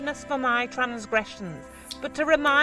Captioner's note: can opens